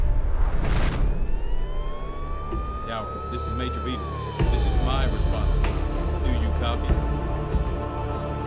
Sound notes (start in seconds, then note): 0.8 siren wailing